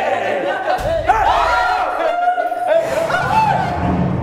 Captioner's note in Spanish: gritan